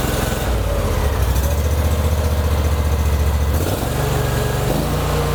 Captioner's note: engine revving